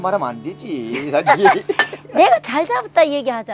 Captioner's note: both laughing